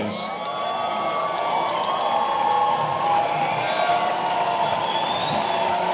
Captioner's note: audience cheering; audience applauding